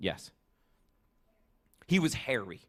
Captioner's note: none